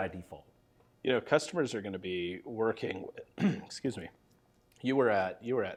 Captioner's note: clears throat